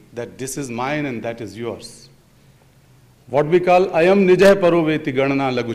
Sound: speaks in Sanskrit

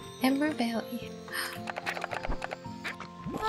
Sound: gasp

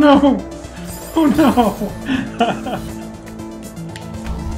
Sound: chuckling

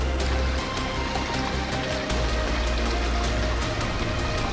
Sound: water running

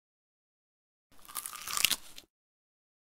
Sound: sound of biting

